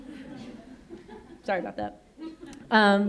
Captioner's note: audience laughs